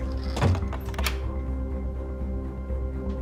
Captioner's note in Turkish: Kapı kilitleme sesi